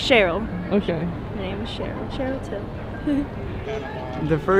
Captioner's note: chuckles